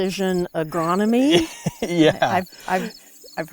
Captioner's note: laughs